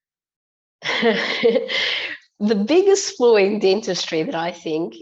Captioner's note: laughs